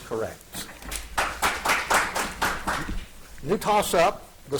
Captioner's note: audience applauding